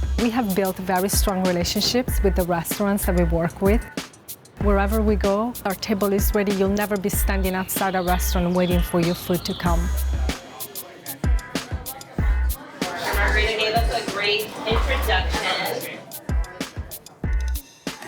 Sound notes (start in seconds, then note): 0.0 upbeat music; 10.5 upbeat music; 11.4 people chattering